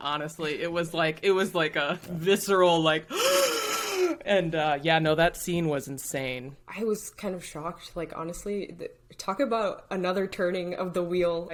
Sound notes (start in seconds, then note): 3.0 gasping